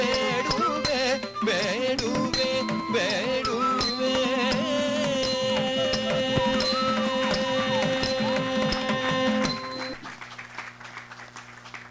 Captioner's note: applause